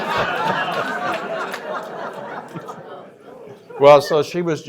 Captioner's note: laughter